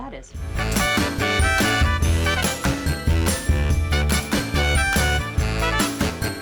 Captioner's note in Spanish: música electrónica alegre; riendo